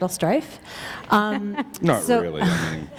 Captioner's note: chuckle